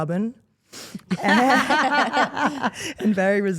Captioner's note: Steph and Elyse laugh